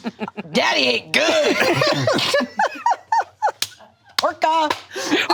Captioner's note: all laughing